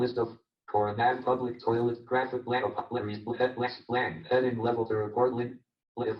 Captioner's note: JAWS speaking disjointedly